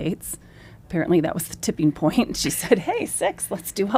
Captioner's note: laughs